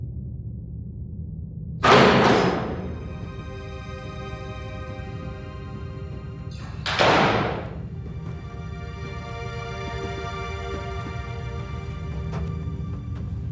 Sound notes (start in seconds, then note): 1.9 thudding; 4.4 dramatic music